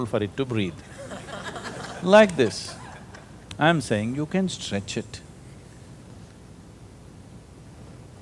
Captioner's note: laughter